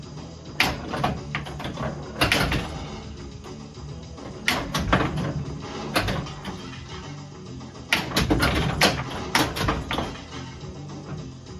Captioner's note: pinball Noises